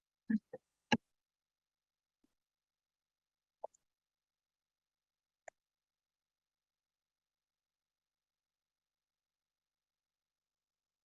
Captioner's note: silence